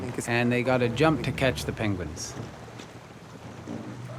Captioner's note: none